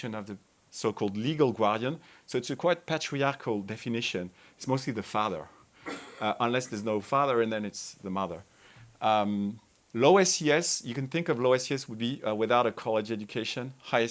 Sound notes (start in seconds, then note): 5.8 attendee coughing